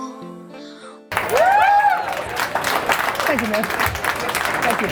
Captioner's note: crowd cheering